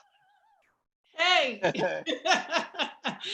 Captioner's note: laughter